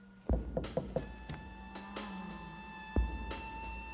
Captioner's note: knock taps